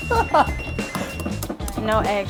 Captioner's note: laughter